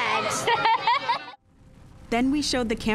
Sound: kid laughter

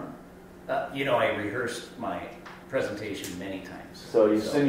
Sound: voiceover

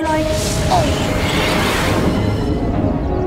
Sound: rockets fire

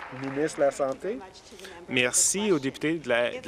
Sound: applause

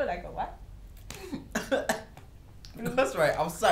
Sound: cough cough

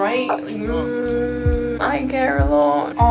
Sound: hums

